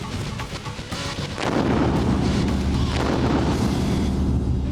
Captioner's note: gun firing